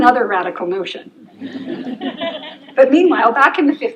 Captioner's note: laughter